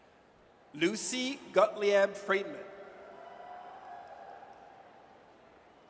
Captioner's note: audience cheers